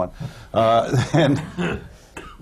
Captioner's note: laughs